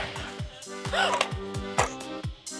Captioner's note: gasps